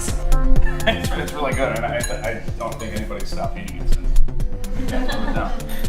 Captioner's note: chuckles